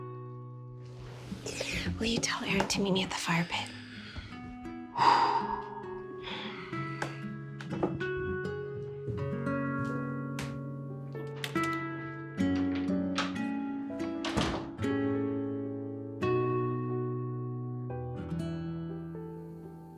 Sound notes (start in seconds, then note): 4.9 Dieter sighs; 5.0 gentle music; 15.0 gentle music continues